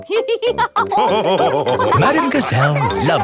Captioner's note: all laughing